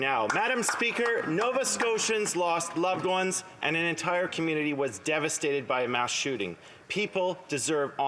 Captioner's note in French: voix de l'interprète